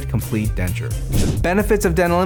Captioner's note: whooshing sound